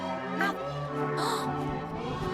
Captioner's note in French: inspire audiblement